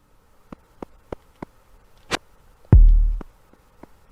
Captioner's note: clumping sound